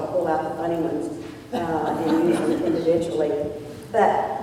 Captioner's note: laughter